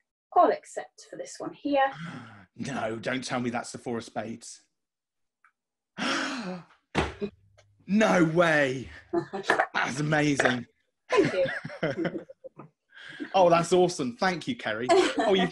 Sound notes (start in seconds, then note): 1.9 gasps; 6.0 gasps; 9.1 laughing